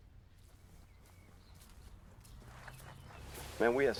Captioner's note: birds chirping